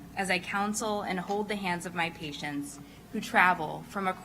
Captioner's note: none